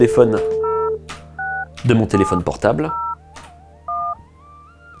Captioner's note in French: sons de touches de téléphone